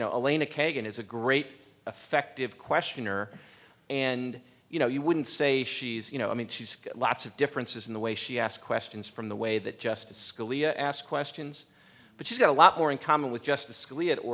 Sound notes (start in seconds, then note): none